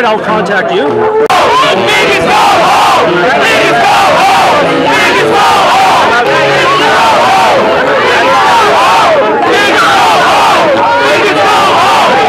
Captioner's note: shouting